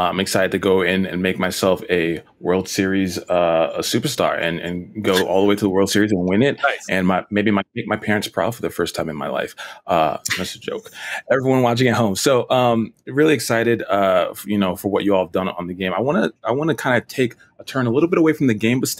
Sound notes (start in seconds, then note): 10.2 laughs